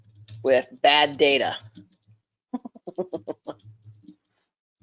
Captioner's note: laughs